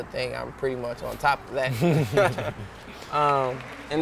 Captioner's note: laughing